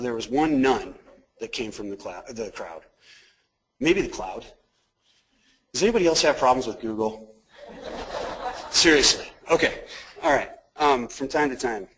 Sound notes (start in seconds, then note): 7.6 crowd laughing